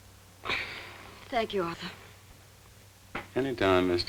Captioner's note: sighs